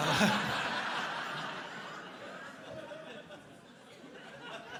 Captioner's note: crowd laughing